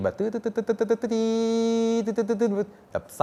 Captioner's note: makes funny sounds